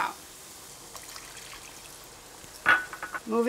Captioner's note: food sizzling